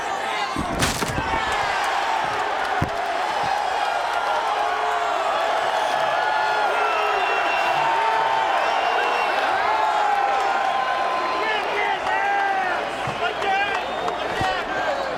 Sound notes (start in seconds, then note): 0.5 table crunches; 2.0 audience cheering